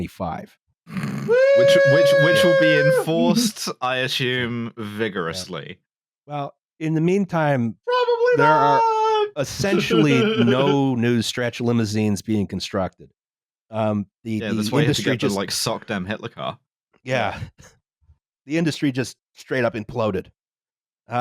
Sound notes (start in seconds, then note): 0.9 snorts; 8.0 laughs